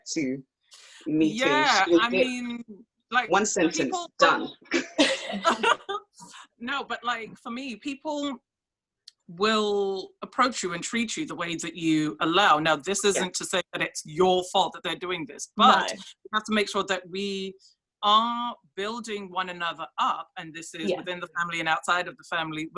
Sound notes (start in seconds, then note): 0.0 laughs; 4.1 laugh